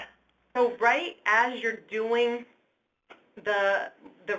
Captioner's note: voiceover